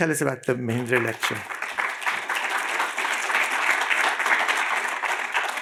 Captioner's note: applause